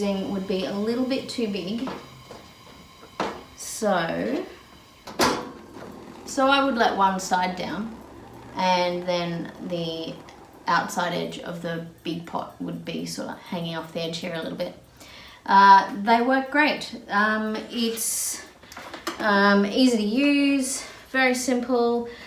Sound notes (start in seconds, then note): 4.5 flame burbles as it goes out; 5.0 metal clunk